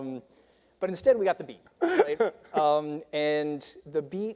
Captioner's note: laughing